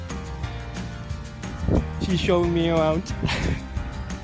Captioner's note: laughter